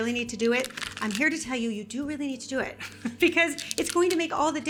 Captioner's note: laughs